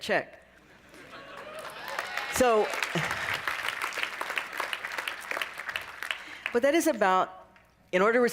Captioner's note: cheering and applause